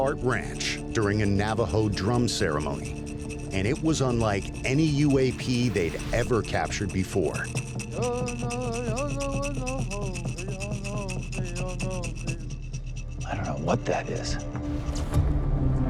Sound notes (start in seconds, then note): 7.4 chanting